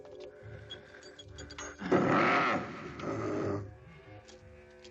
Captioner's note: chain jingling